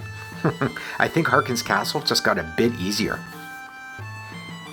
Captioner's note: chuckles